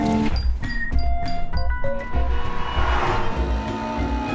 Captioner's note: horn blares